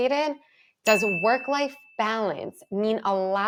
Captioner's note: text chimes